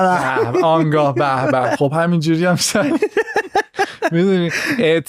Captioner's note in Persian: خنده